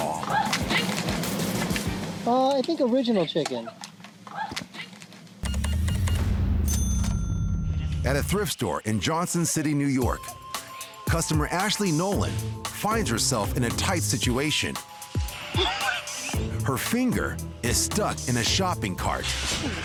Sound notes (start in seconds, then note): 4.2 woman grunts; 5.4 register beeps, dings